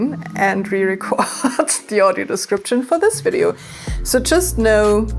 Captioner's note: laughing